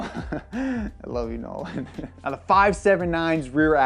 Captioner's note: laughing